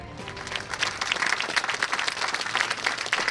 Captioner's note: applause